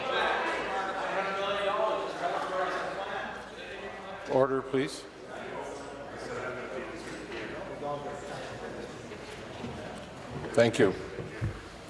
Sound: conversation din

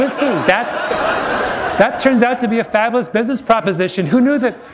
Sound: laughter

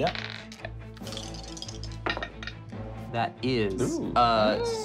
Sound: rolling dice

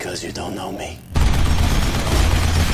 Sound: rapid gunshots

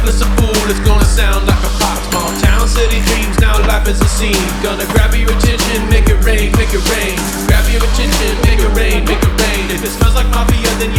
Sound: throwing noises

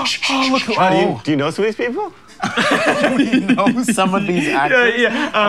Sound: laughs

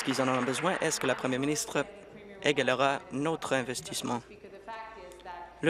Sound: applause

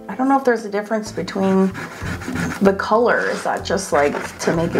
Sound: eraser rubbing

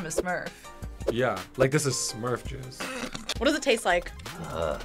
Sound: both laugh

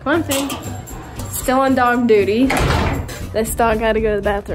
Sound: metal clacking; door closes

